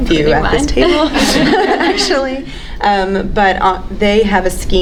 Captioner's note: panelists laughing